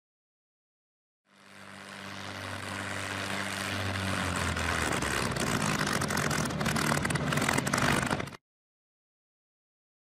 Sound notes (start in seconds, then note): 1.3 aircraft engine sputtering to a stop as it gets closer